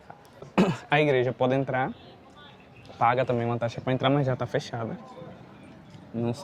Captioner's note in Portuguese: limpando a garganta